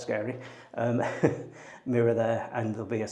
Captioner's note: chuckles